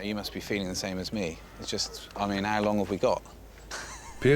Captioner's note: laughs